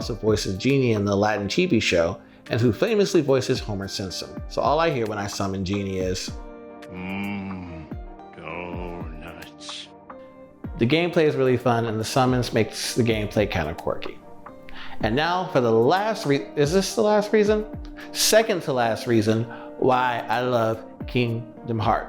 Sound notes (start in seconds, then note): 6.5 Homer Simpson Voice